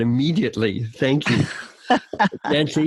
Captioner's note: laughing